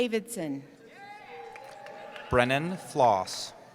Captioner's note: cheering